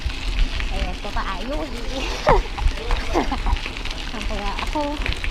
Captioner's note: laughs